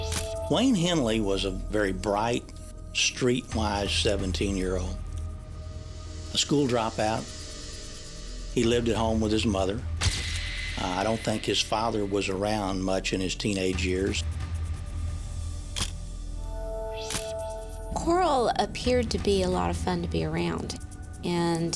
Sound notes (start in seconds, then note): 15.8 camera shuttle click